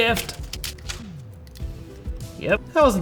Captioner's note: controller parts snapping together